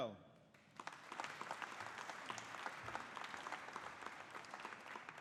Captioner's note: audience applauding